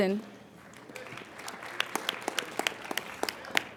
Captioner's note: applauding